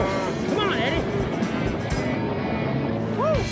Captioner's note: cattle stampeding